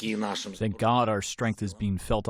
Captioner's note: through translator